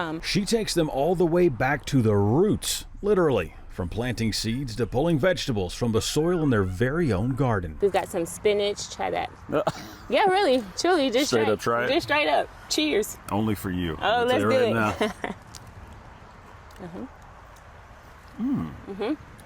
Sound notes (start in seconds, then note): 9.5 laughing; 17.7 laughs